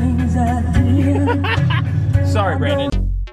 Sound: laughing

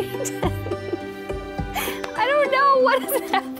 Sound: laughs

